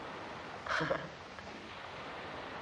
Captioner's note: chuckling